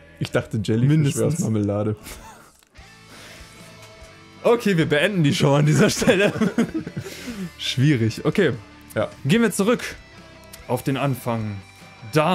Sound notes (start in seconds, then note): 5.3 both chuckle